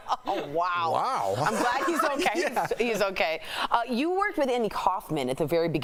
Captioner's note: laughter